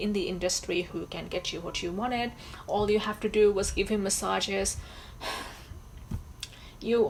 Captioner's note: sighs